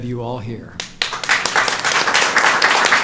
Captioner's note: applause